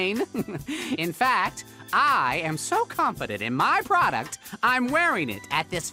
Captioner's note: laughs